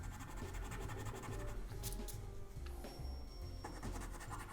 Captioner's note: pencil scratching